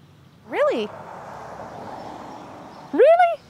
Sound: car passing

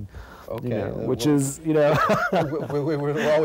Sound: laughs

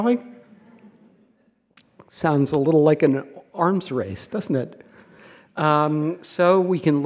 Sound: laughter

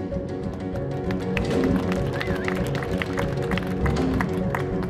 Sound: audience applauding

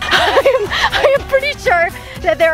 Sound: laughs

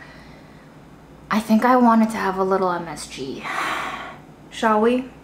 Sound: sighs

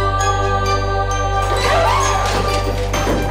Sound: screams

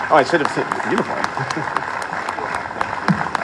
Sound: applause

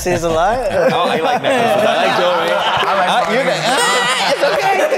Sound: all laughing, chattering

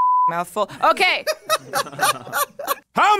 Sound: laughs

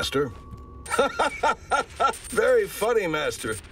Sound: laughs

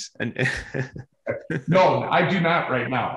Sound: chuckles

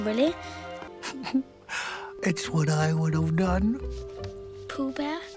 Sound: giggles

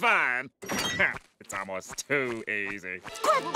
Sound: chuckles

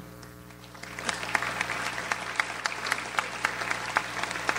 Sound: audience applauds

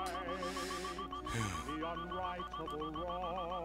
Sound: breathing

